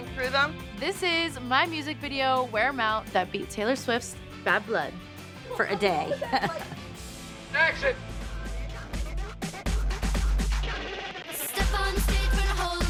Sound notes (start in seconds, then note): 5.4 chuckles